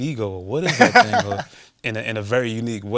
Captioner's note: laughs